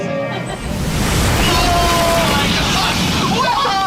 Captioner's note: water splashing